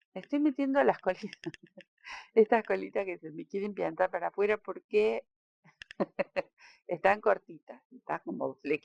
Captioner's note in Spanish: risas